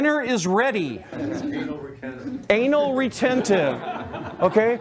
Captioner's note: laughter